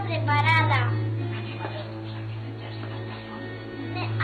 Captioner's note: teacher hushes